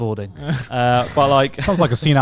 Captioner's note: chuckles